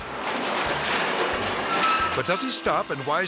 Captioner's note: train wheels clattering